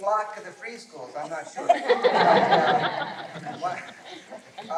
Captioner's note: laughter